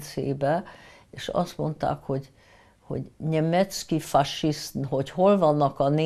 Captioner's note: russian